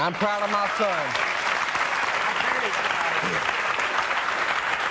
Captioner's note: audience cheering